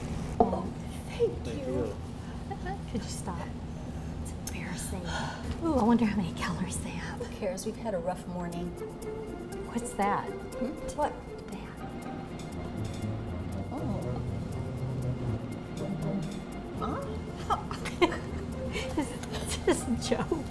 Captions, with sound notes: - Oh, thank you. - Could you stop? It's embarrassing. I wonder how many calories they have? - Who, cares, we've had a rough morning. - What's that? - Hmm, what? - That. (light, suspenseful music) (laughing) Is this a joke?